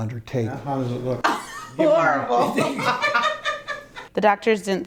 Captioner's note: laughs